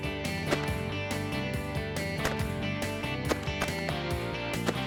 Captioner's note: multiple gun shots